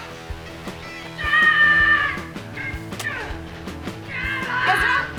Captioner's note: Ezra screaming